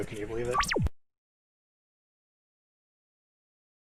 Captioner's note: all audio cuts out; save noise